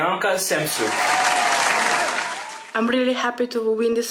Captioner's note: applause